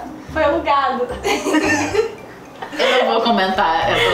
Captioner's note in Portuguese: risos